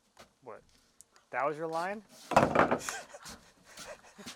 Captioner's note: laughs